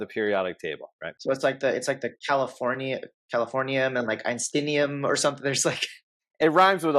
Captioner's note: chuckles